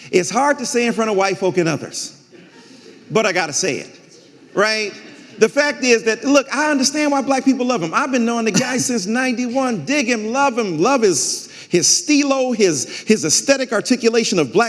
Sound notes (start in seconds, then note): 4.0 audience laughing